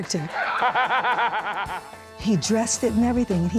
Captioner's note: evil laughter